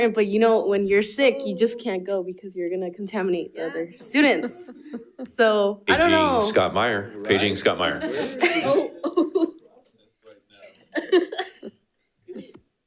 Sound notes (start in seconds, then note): 8.6 panelists chattering